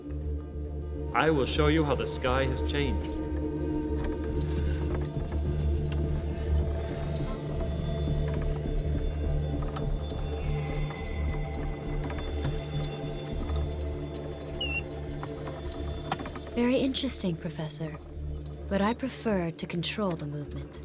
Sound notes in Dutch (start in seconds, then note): 4.0 dramatische muziek; 4.0 hout kraakt